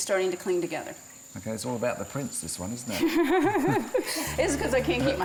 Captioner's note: laughs